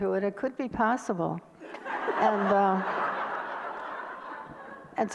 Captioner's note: audience laughter